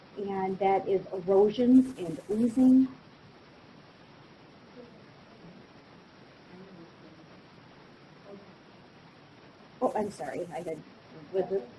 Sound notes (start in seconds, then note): 4.0 student speaking faintly